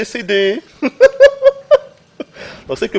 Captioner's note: giggles